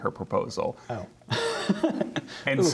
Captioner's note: laughter